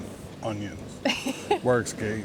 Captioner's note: laughing